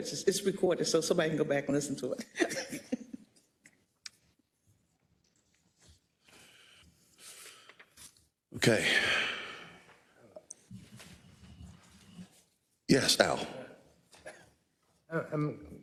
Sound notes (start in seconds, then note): 2.1 laugh